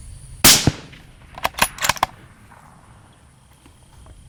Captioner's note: gunshot